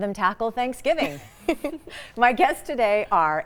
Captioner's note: girls giggle